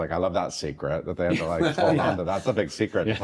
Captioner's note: guests chuckling